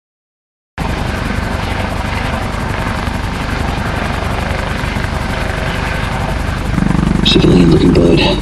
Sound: helicopter whirring

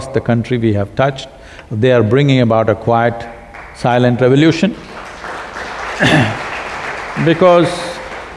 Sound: applause

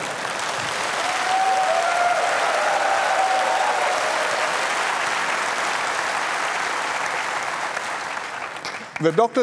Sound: laughter and applause

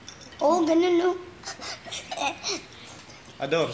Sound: laughs

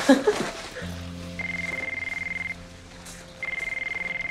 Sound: laughs; phone rings

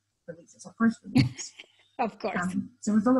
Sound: laughs

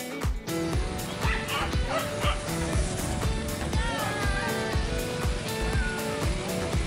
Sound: dogs barking; spectator cheering

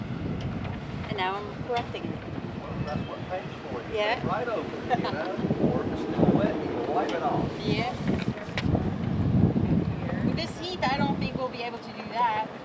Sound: laughing

